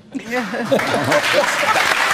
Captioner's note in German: Applaus, Lachen